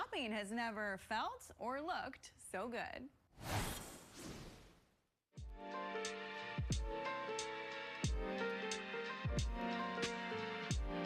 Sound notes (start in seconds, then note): 3.4 logo whooshes; 5.4 mellow music